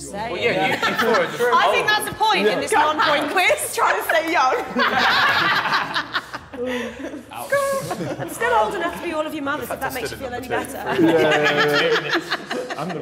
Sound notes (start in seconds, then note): 4.0 all laughing; 10.8 woman laughing